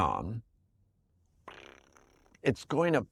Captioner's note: trills